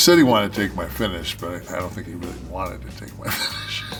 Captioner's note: laugh